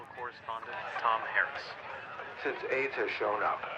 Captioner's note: crowd chattering